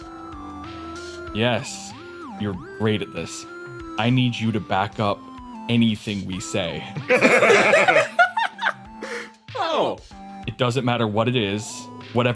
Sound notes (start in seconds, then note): 6.9 laughs